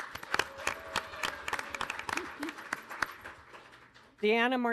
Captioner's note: audience applauding